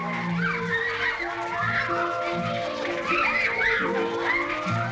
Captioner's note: children talking and yelling